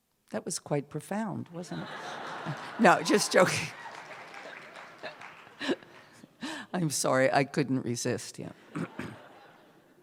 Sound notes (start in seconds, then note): 1.7 laughter, applause; 4.2 applause continues; 8.7 laughter